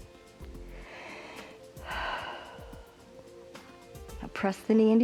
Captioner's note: inhales and exhales